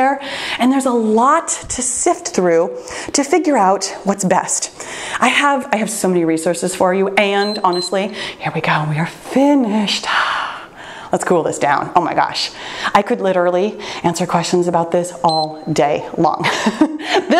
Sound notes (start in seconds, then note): 7.3 timer beeps; 10.2 sighs; 15.2 timer beeps; 16.4 laughs